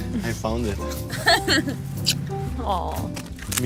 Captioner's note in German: lacht